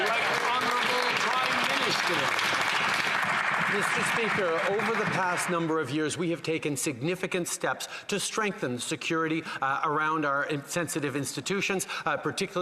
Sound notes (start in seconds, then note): 4.2 some Applause